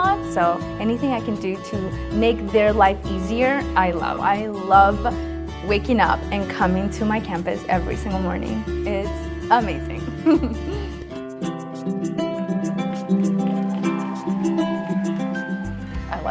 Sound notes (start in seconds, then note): 10.0 laughs; 11.3 upbeat music; 12.9 audience cheering and applauding